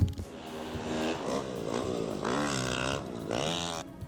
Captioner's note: bike engine roaring